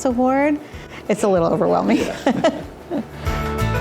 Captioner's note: laughs